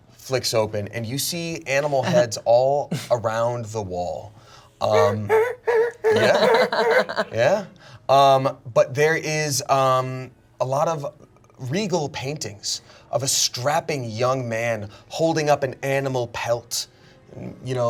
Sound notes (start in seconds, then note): 5.0 humming scary music